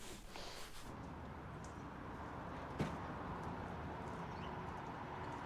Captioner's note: traffic murmuring